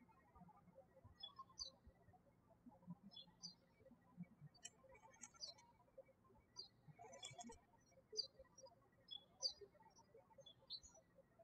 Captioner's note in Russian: птички щебечут